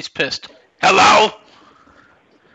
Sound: gruff voice

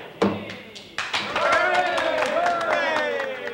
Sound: cheering

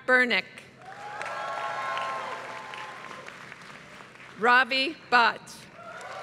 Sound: applause; applause

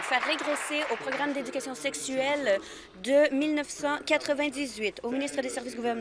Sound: applause

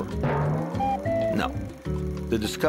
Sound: hitting of ancient drum sound

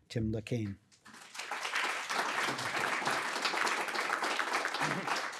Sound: audience applauding

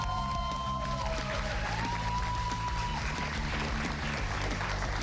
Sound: cheers and applause

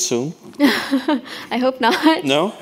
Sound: chuckles

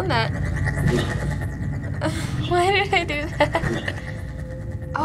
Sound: sharp buzzing; giggling

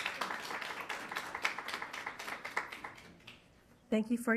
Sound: attendants clapping

